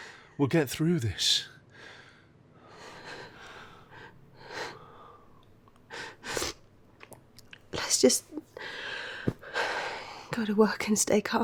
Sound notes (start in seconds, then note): 3.0 Sofia sniffles